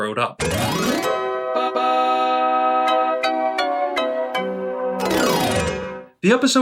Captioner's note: that classic, nostalgia-baiting Rugrats sound